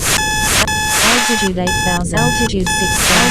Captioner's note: alarm beeping